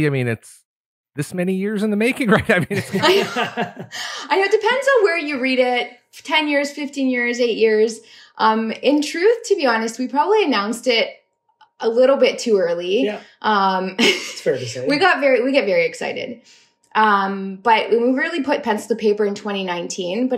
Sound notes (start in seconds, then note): 2.3 laughter